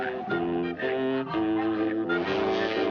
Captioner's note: whistle